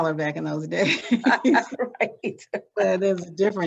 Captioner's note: both laughing